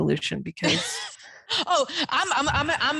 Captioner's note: chuckles